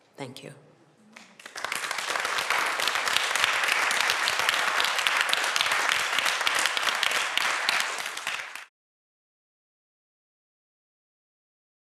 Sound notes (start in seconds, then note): 1.1 applause